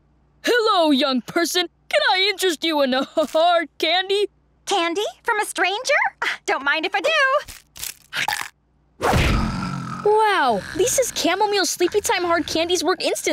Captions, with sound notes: Hello, young person. Can I interest you in a hard candy? Candy? From a stranger? Don't mind if I do! [snoring] Wow, Lisa's chamomile sleepy-time hard candies work instantly.